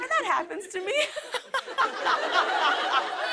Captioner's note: laughter